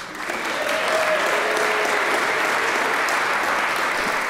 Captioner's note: applause, cheers